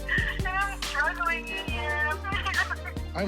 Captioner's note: crying